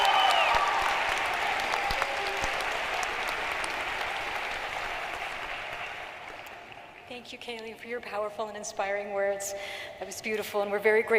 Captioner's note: cheering and applause